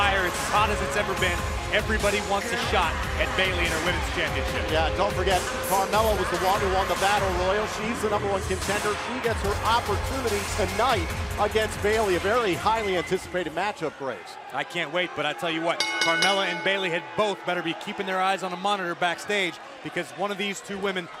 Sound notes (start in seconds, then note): 15.8 bell ringing